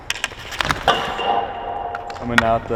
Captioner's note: puck dinging crossbar